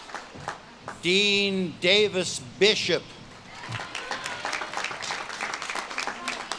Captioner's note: audience claps and cheers